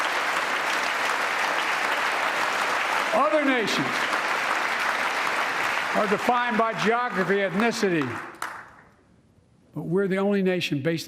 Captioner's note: applause